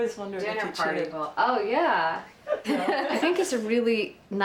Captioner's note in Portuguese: risos